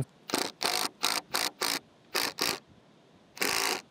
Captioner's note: drill whirring